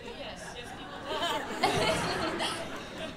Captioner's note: laughter